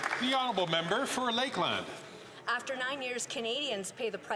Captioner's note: some Applause